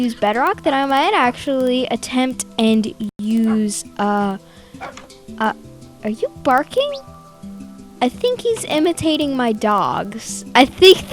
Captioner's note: parrot barks